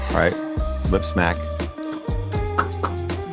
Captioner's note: laughs; smooth music